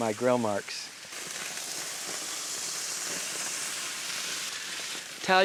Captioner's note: hens sizzling